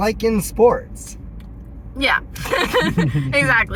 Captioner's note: laughter